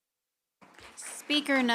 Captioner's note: applause